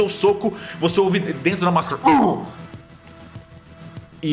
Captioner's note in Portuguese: uggh